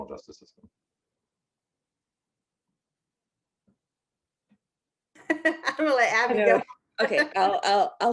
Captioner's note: laughter